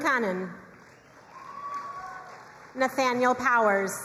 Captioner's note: crowd cheering and applauding